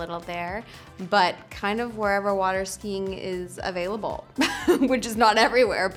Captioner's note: she laughs